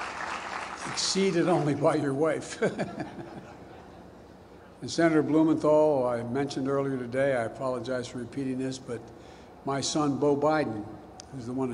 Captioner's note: applause